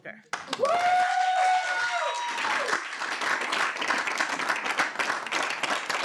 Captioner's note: audience cheering and applauding